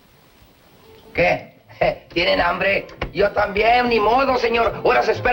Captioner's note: speaking spanish